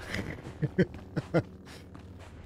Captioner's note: laughs